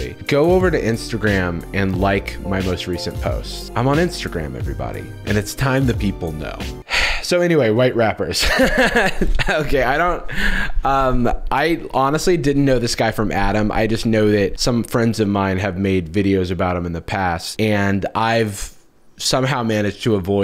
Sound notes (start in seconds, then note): 6.7 sighs; 8.5 laughs